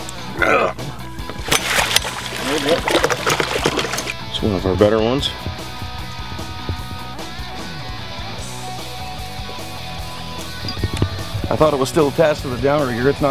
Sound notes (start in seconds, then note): 1.3 splashing